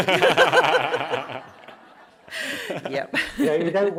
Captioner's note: laughter